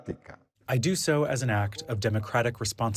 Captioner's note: through translator